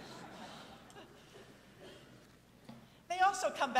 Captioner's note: audience laughing